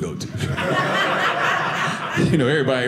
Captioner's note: audience laughing